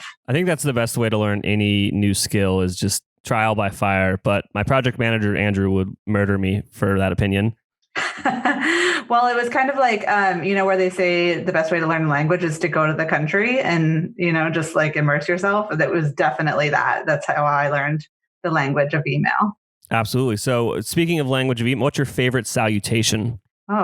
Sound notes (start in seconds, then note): 8.0 laughs